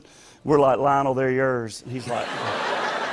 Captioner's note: laughter